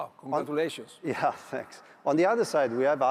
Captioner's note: chuckles